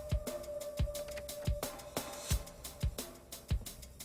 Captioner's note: door opening